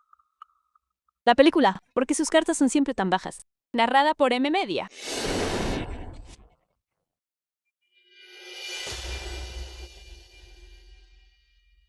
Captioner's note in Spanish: resoplido